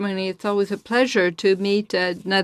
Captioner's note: speaking in French